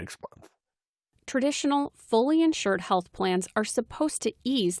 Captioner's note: voice-over